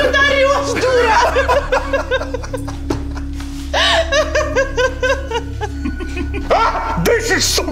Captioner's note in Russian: смех